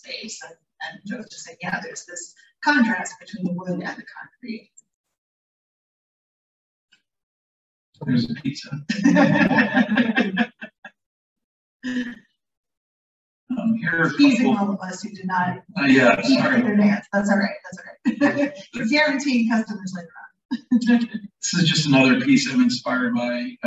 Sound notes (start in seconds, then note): 15.9 laughter; 16.5 indistinct chatter about pizza